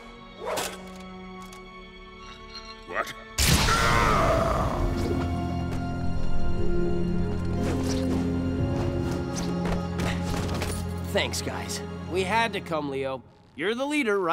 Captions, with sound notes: What? [screaming] Thanks, guys. We had to come, Leo. You're the leader, right?